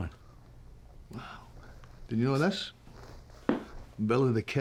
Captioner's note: scottish accent